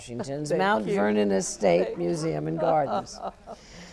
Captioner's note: laugh